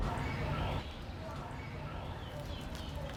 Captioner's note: none